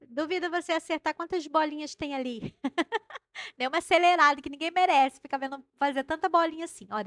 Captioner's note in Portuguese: risadas